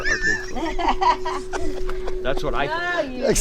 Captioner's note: chuckles